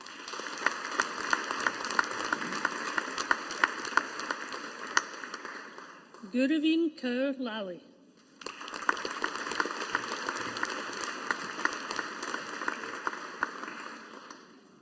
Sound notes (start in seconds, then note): 0.0 audience applauding; 8.4 audience applauding